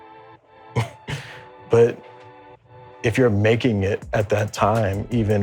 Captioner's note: chuckles